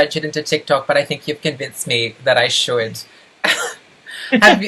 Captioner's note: laughs